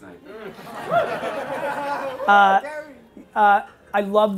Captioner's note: laughing